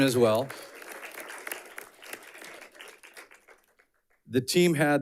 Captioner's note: audience clapping